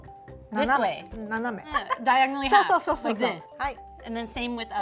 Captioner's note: speaking Japanese; speaking Japanese